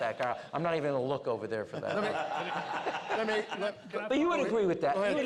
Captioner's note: laughter